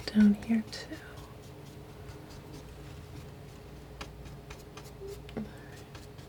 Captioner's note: scratching